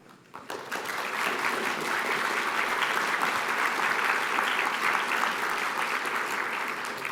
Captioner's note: applause